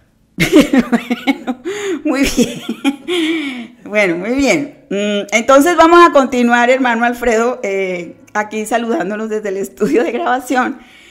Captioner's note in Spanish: risas